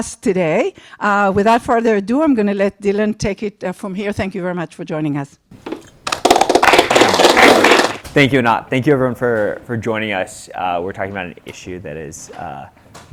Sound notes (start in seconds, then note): 6.1 applause